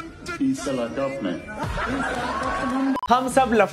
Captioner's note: crowd laughing